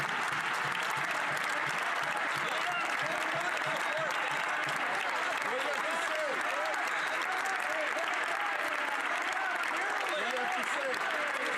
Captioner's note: some Applause